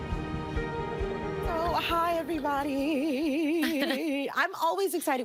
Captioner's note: singsongy